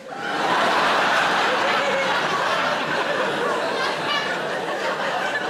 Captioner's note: audience laughing